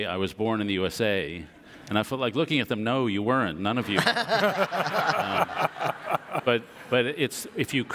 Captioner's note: audience laughter